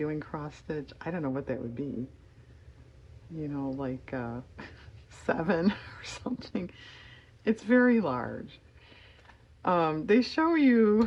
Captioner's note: laughs